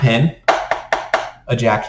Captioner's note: pen taps